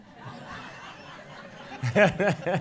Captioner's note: laughs